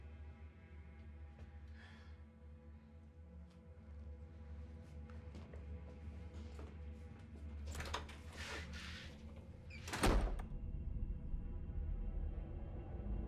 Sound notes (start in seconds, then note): 7.5 door unlatching; 9.8 door slams; 10.3 tense music